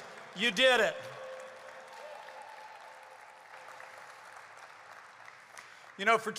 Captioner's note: applause